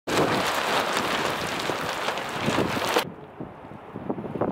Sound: wind

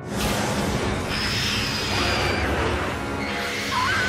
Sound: shrieking

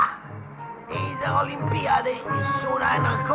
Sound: German language

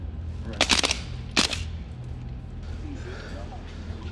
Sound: gunfire

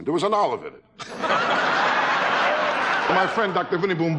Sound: audience laughing

